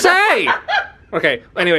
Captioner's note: laughing